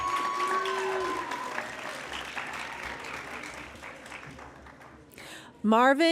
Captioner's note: cheering and Applause